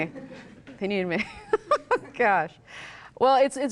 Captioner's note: laughs